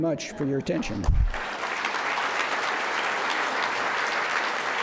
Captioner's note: applause